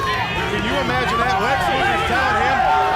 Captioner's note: crowd chatter